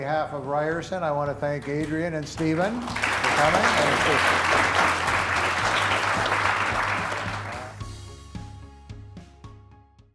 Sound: applause

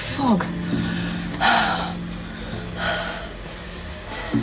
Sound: sighs

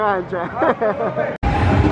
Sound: chuckles

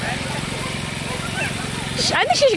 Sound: generator noise; dogs barking

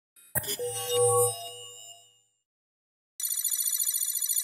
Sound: electronic sounds

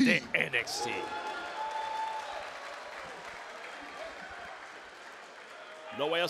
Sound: applause

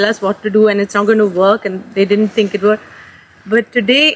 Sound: none

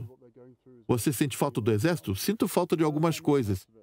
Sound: voiceover

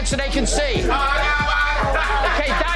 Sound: shouting

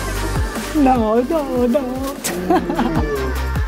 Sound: laughs

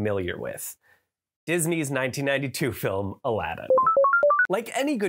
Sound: computer chirps

